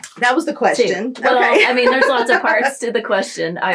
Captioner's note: laughter